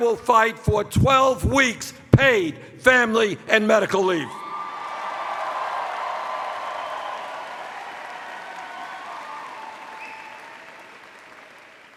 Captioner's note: cheers